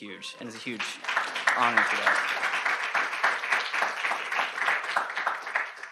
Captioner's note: audience applauding